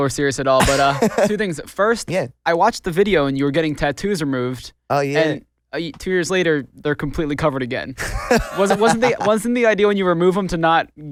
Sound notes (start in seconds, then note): 8.0 laughs